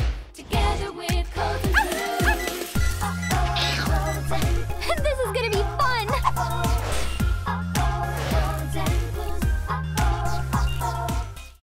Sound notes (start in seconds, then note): 1.7 robot Puppy barking; 8.0 whoosh